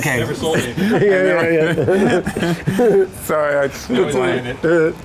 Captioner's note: men laughing